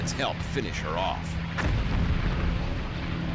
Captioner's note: explosions